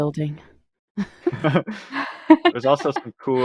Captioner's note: laughter